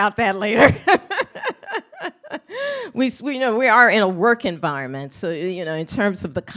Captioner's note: laughs